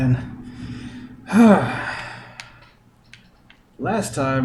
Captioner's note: sighs